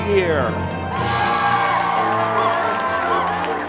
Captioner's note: all cheer